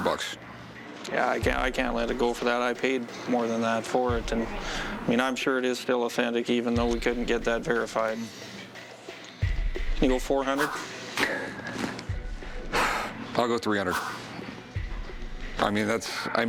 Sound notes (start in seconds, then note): 10.5 exhales